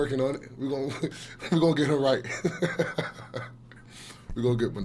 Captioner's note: laughs